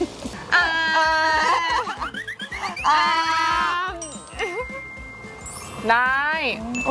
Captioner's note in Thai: เสียงหัวเราะ